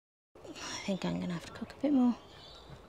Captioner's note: sighs